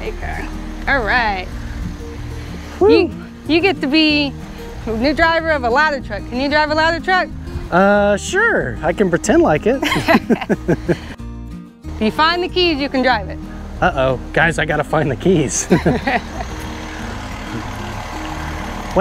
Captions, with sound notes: - All right. You get to be a new driver of a ladder truck. Can you drive a ladder truck? - Sure, I can pretend like it. (both laughs) - If you find the keys, you can drive it. - Uh oh. Guys, I gotta find the keys. (both laughs) (truck engine roaring)